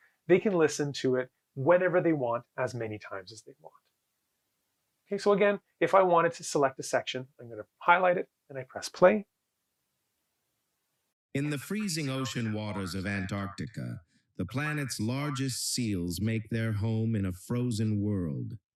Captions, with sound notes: they can listen to it whenever they want as many times as they want. Okay so again, if I wanted to select a section I'm going to highlight it, and I press play. [AI speech] In the freezing ocean waters of Antarctica, the planet's largest seals make their home in a frozen world.